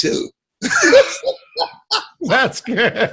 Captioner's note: both laughing